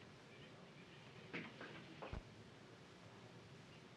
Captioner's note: none